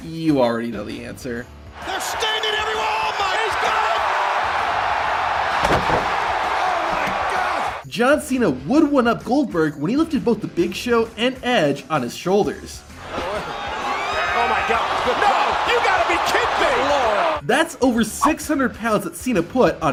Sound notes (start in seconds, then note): 4.2 crowd cheering; 5.4 body thuds; 6.8 referee taps; 14.1 wrestler groaning